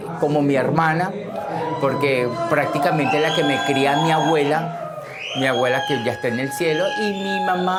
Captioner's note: cheering from audience